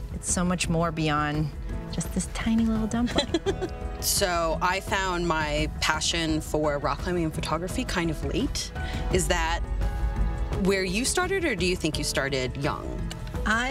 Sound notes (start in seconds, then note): 3.0 laughs